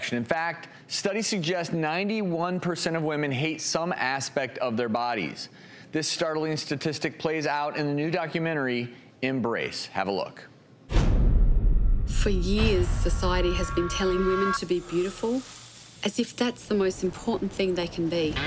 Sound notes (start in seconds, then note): 10.9 deep boom tone